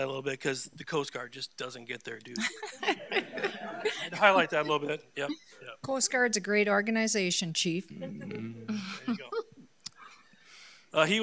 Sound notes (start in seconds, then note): 2.3 all laughing